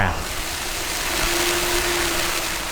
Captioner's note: water sprays